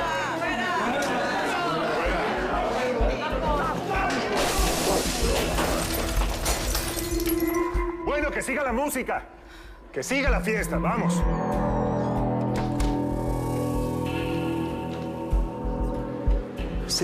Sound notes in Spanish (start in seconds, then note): 4.3 Ruido de vidrios rotos